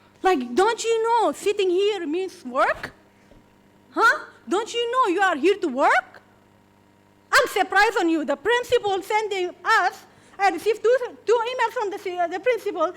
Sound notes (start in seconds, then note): none